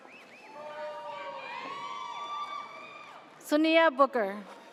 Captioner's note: audience cheers